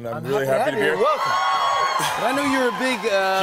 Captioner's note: cheers and applause